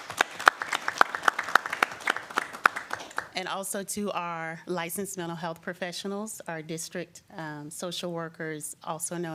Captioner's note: applause